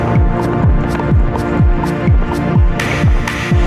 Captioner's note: wind blows in the mic